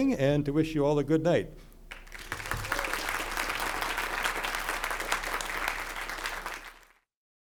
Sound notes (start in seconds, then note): 1.9 crowd applauding